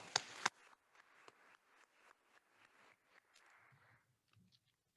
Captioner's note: attendees applauding